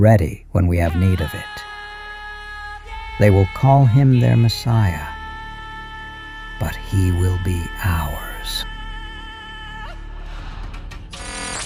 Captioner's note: whispers